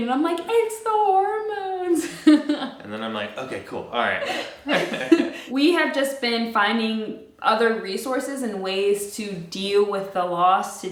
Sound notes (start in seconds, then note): 4.1 giggling